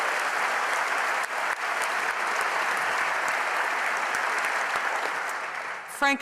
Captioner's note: applause